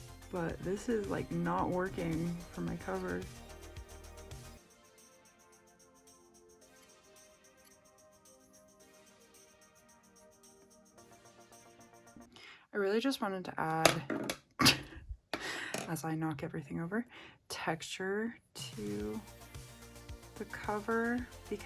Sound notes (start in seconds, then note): 13.8 paint brush falls; 15.3 laughing